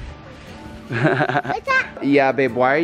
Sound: laughs

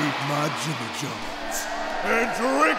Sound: crowd cheers

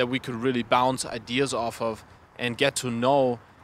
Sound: none

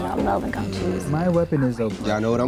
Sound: whispers

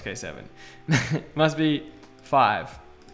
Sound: laughs

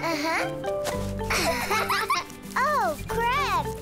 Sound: both laughing

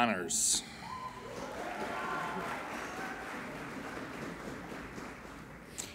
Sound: applauding and cheering

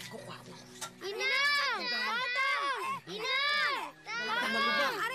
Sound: Pedrito and Pepito in unison

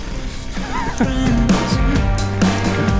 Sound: laughing; upbeat music continues

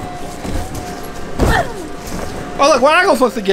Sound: assistant grunts

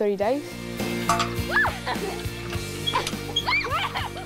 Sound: children laugh and squeal

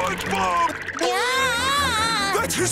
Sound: screaming

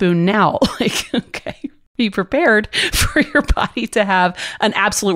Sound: laughs

